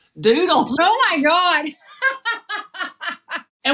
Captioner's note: laugh